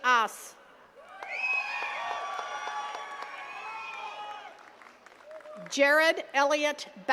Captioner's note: attendees cheering and clapping